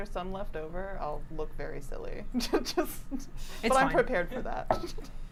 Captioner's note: laughs